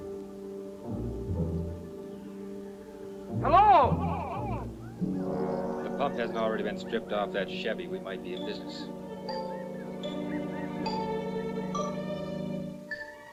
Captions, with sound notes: Hello? (echoing) If the pump hadn't already been stripped off that Chevy, we might be in business. (ominous instrumental music)